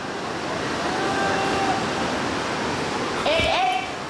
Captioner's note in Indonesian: suara teriakan